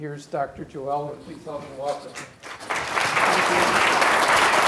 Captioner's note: applause